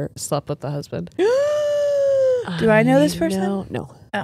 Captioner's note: gasps